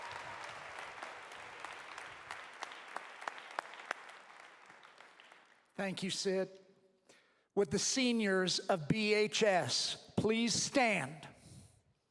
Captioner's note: applause